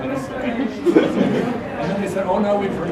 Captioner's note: laugh